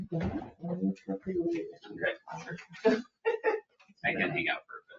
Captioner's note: people chatter distantly